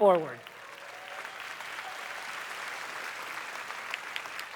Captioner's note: applause